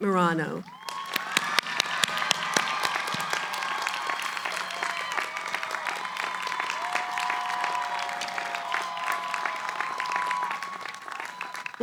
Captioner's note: cheering, applause